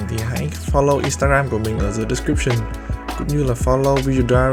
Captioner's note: speaks in foreign language; speaks in a foreign language